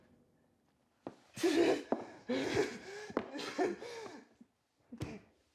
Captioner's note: Mark gasping